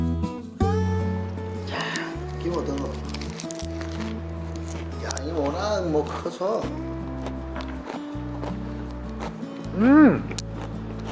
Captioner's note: the sound of crunch